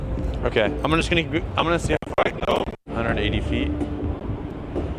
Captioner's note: crackles